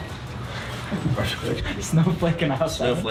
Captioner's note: laughs